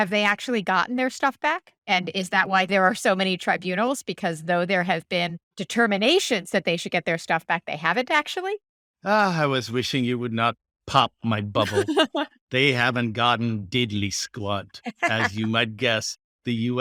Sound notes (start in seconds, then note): 11.3 laughing